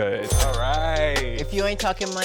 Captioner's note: money clinks